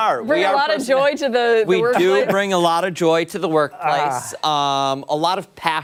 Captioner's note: laughter